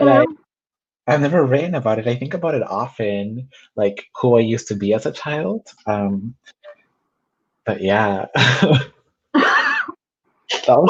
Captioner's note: laughs